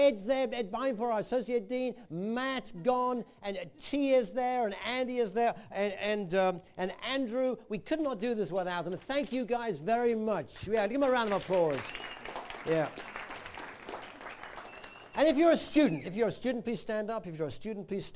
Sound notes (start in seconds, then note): 12.6 applause